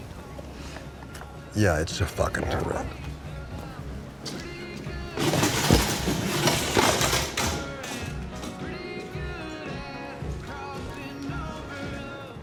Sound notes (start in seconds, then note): 4.2 country music; 4.8 bar stool clattering; 8.6 country music